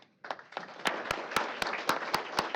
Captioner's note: applause